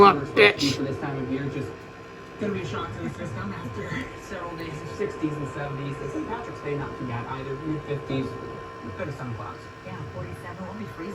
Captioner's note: TV continues playing in background